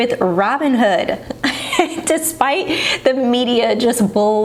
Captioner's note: chuckles